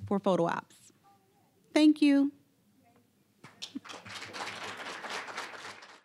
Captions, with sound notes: for a photo op. Thank you! (applause)